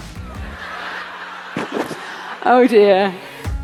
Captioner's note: audience laughing